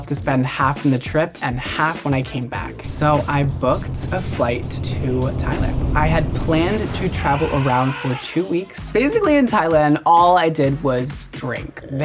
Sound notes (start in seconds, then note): 2.7 engine roars; 6.1 elephant trumpet